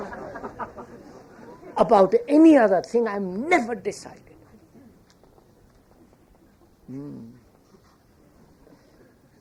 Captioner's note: laughter